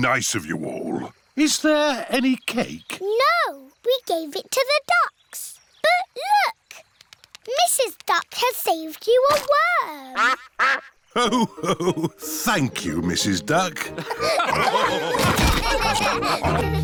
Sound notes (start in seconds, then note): 10.1 quacks; 13.8 laughter